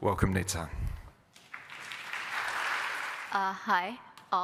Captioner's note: applause